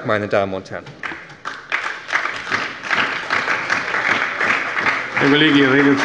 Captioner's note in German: Beifall bei der SPD